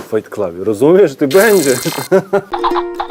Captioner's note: evil laughter